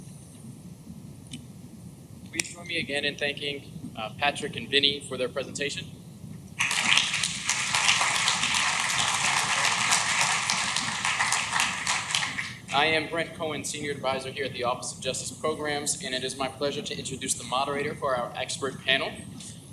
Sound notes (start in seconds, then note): 6.6 clapping